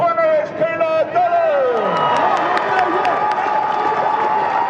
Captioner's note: people cheering